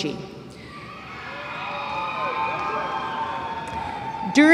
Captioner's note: cheering